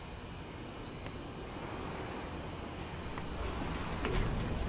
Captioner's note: insects chirping